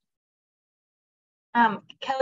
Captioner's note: silence